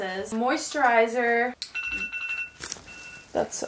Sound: alarm bell rings

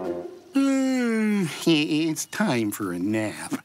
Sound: yawn

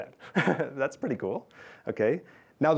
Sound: laughs

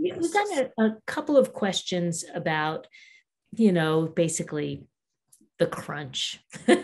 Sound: laughing

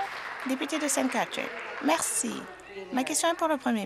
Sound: applause

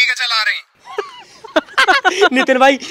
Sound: laughing

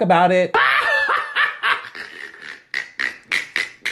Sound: laughing

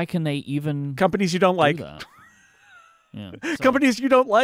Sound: laughs

